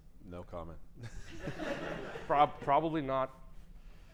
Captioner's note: laughter